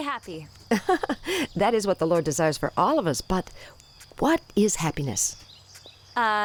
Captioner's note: Rev. Mother chuckles